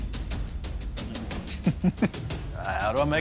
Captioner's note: chuckles